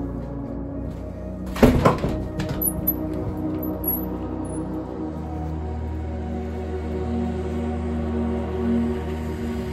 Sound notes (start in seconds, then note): 1.5 door slams shut; 4.7 oncoming car in the distance